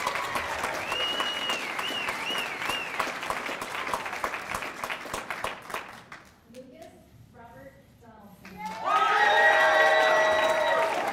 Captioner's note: cheers and applause